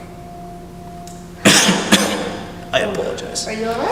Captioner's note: coughs